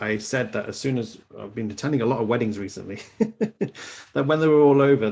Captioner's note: laughs